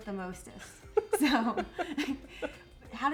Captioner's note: both laugh